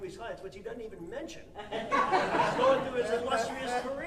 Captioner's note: audience laughing